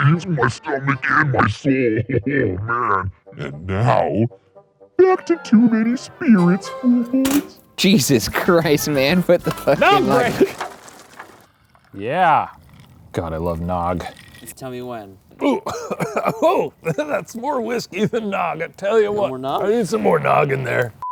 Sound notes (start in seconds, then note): 15.3 coughing